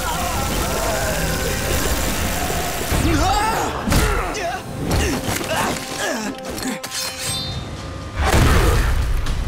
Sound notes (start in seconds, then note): 2.4 grunting